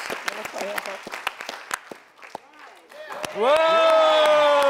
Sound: Abby drowned by crowd; cheering

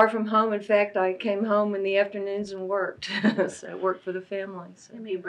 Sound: laughs

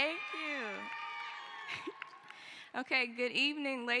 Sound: cheering

